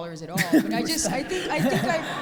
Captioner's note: audience laughs